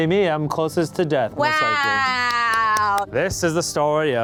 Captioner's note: clapping